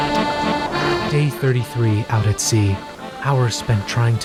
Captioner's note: accordion music; voice-over